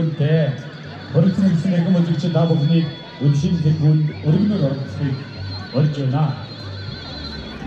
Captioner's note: announcement playing over a loudspeaker